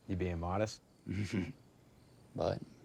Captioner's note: Tyler chuckles